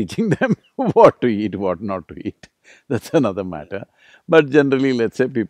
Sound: laughs

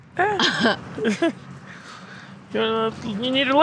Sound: laughing

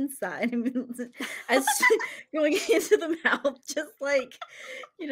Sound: laughs

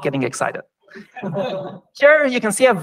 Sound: laughter

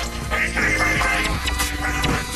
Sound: alarm blaring

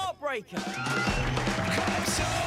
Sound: cheering

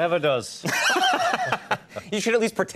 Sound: laughter

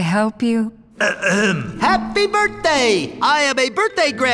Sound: clears throat

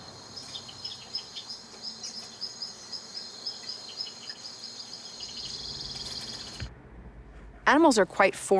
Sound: recording of birds chirping at high speed

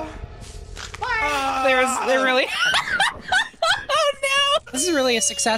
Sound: groans; laughs

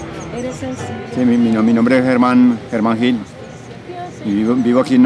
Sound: foreign language

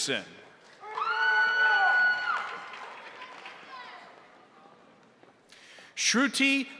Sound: crowd cheering; crowd applauding

